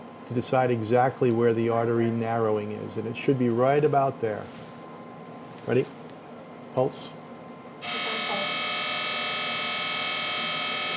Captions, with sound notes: to decide exactly where the artery narrowing is. And it should be right about there. Ready? Pulse. (laser buzzes)